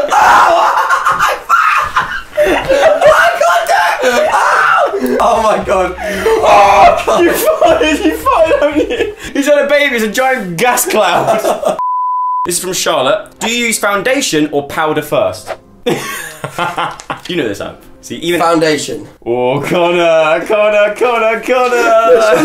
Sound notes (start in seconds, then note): 11.8 beep; 15.9 laughing